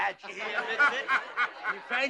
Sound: all laugh

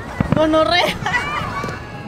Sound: laughs

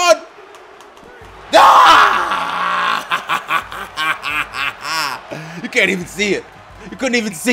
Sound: laugh

